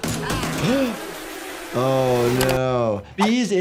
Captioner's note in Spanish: jadea